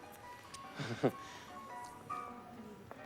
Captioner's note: laughs nervously